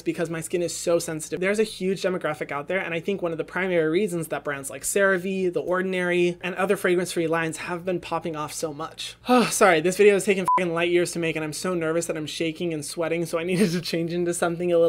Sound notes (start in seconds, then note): 10.4 beep